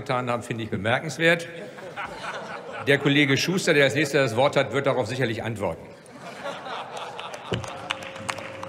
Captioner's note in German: Heiterkeit bei Abgeordneten der CDU/CSU, der SPD und der FDP